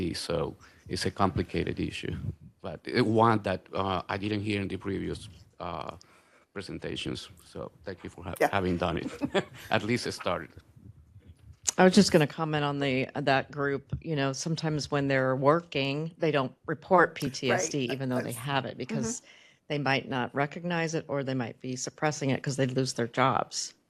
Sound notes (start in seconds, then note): 8.4 laughs